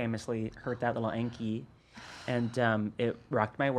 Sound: gasping

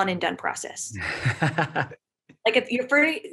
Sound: laughing

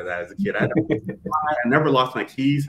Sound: laughs

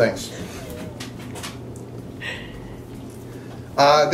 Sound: sister laughs

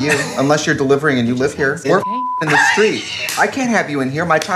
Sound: beep

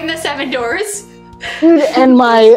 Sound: laughs

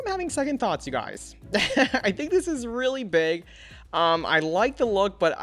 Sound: laughs

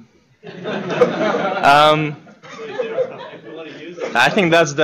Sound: laughter

